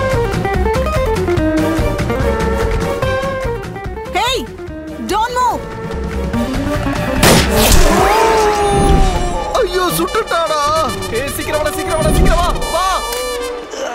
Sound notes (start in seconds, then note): 7.2 gunshot